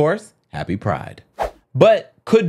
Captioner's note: air whooshing